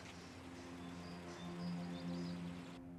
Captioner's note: bird chirp